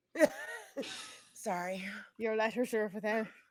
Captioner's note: laughs